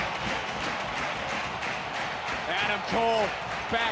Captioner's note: audience cheering